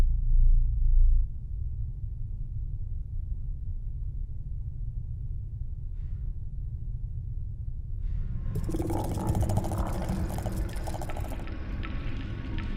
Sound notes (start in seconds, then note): 8.5 eerie scuttling; 10.5 sinister music plays